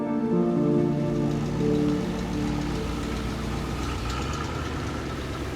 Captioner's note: engine rumbling